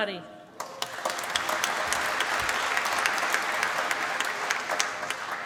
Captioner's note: applause